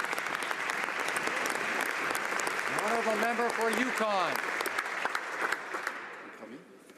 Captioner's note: applause